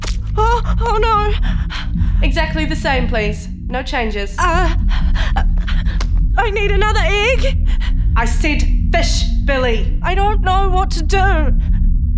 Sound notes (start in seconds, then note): 0.0 B makes kissy fish sounds; 0.0 sound off egg cracking; 3.5 B breathes very quickly, too quickly; 4.4 B's breathing continues to be irregular